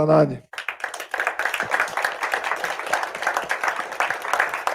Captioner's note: audience applauding